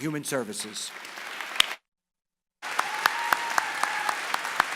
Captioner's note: applause